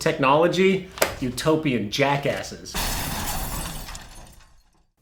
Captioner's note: glass breaking